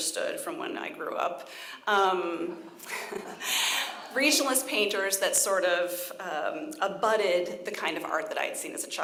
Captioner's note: chuckles